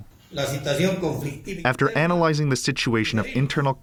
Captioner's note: through translator